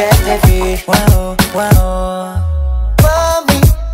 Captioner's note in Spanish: Woo, woo